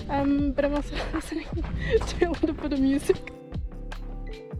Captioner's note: laughs